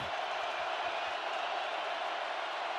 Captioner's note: crowd cheering